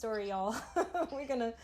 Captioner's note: laughing